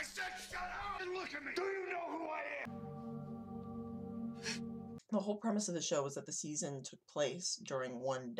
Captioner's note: various yelling